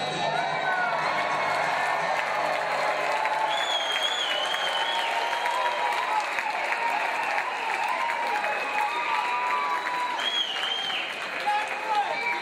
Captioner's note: cheers and applause